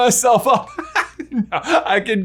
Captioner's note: laughing